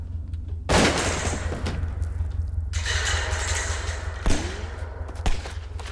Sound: multiple shotgun blasts

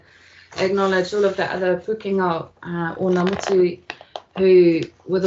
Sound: speaking in te reo Māori

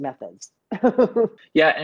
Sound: laughs

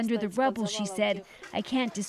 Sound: speaking alternate language

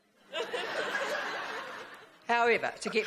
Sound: laughing

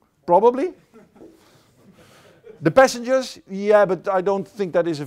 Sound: laughter

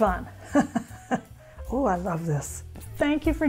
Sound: laughs

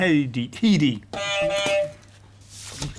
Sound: beep beep

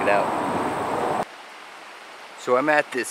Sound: water running

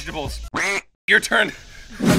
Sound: duck quacking

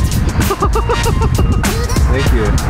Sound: laughing

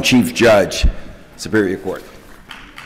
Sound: applause

